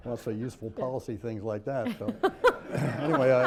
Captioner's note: laughter